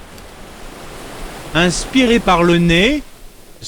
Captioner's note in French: bruit de vagues; voix Vocode; bruit de vagues